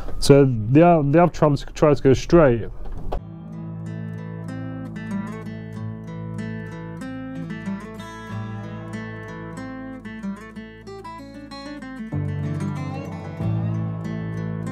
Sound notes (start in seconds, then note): none